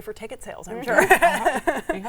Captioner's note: laughing